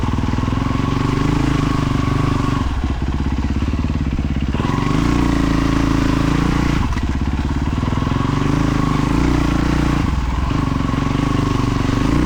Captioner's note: engine revving